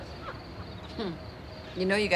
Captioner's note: laughs